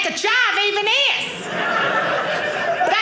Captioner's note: audience laughing